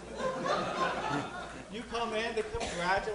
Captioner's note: audience laughing